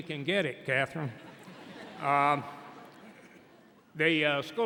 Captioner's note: audience laughing